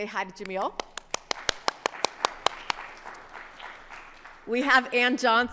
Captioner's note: audience applauding